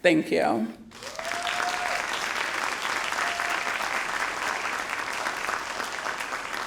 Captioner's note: graduates applauding and cheering